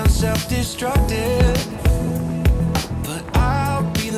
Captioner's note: wind blowing